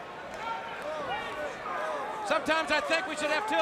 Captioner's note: crowd chatter